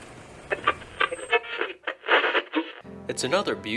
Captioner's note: radio static